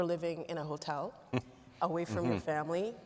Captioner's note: laughing